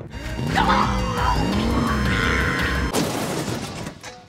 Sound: laughing; car engine revving; groaning; car crashing

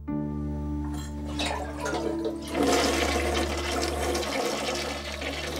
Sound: flushing

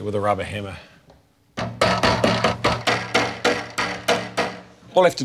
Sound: hammering

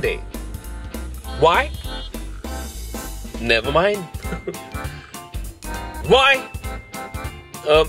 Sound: laughs

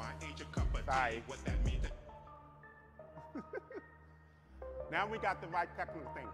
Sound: chuckling

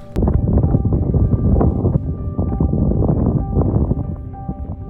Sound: wind blowing in microphone

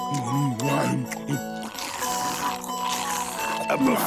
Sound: scarfing

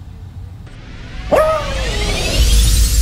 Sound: howl

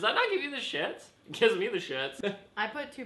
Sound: laugh

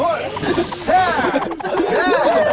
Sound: snuffles

